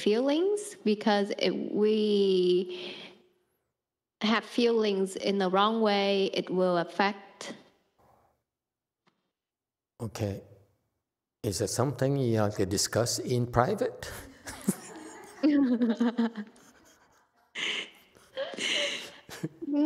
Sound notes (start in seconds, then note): 14.1 laughs; 14.4 speaker laughs